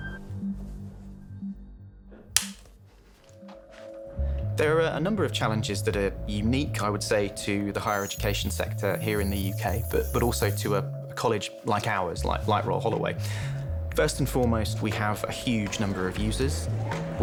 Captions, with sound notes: (snapping sound) - There are a number of challenges that are unique, I would say to the higher education sector here in the UK, but also to a college like ours, like Royal Holloway. First and foremost, we have a huge number of users.